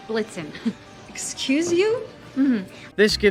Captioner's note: condescending noise